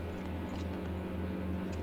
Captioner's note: none